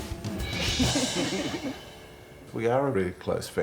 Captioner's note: they laugh